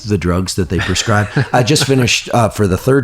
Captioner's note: laughs